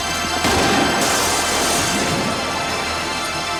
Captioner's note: gun fires; glass shatters